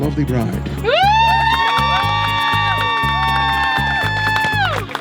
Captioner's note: hollering & applause